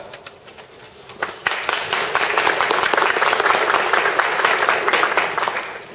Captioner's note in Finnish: Yleisö taputtaa